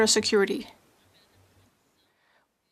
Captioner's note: speaking French